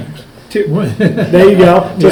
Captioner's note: Richard laughing